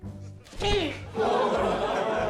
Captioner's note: grunts; laughter